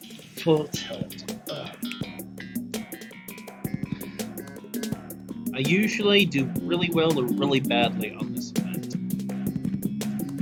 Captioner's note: groan